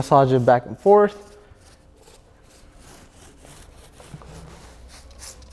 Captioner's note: brush flicking